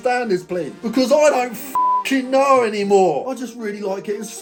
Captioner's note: beep